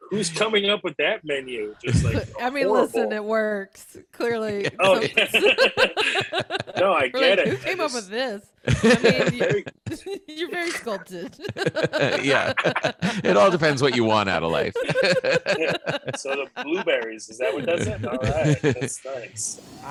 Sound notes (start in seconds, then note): 4.3 laughter; 12.1 laughter